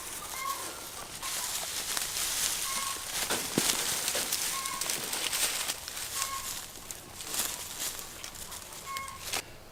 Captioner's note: leaves rustling